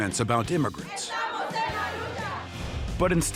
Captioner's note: all chanting in Spanish